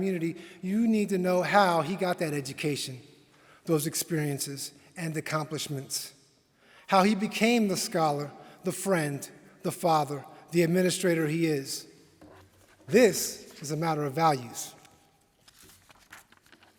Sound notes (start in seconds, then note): none